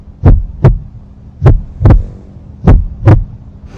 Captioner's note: intense dramatic heartbeat sound effect; intense dramatic heartbeat sound effect again